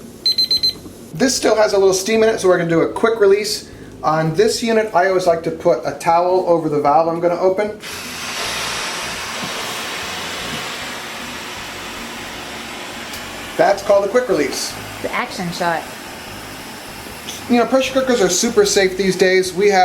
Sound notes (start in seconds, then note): 0.2 timer beeping; 8.0 steam whooshing